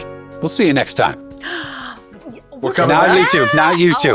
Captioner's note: gasps